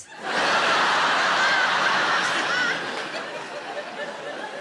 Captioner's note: audience laughs